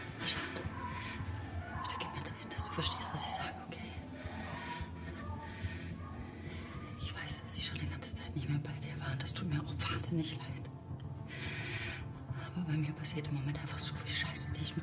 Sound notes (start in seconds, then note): 4.2 woman shrieking